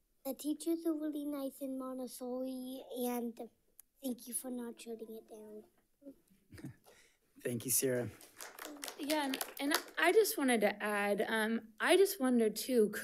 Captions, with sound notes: the teachers are really nice in Montessori and thank you for not shutting it down. - Thank you Sierra. (audience applauds) - Again, and I just wanted to add, I just wonder too,